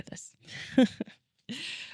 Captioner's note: laughs